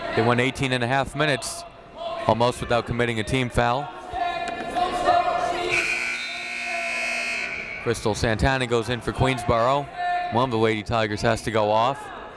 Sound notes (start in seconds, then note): 5.6 buzzer blaring